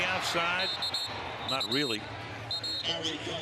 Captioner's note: whistle